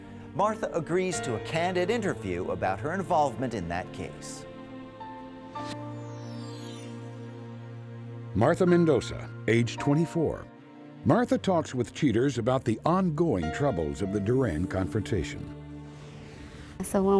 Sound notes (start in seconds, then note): none